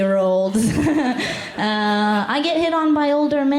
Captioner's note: laughter